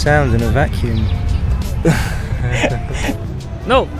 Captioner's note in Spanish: Risas